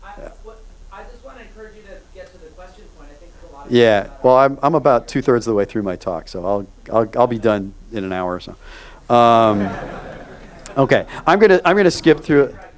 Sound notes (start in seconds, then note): 9.2 audience laughs